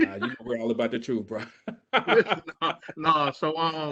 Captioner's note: laughs